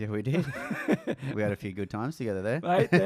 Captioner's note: laughs